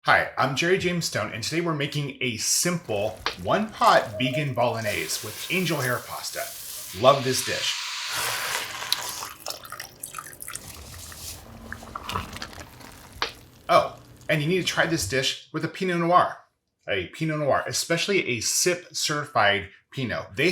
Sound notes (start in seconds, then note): 8.1 pan sizzles; 8.4 liquid sloshes; 12.4 sauce simmers